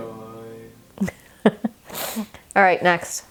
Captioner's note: laughing